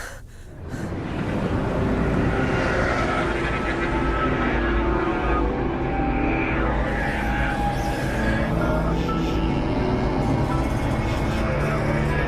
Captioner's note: menacing dream sounds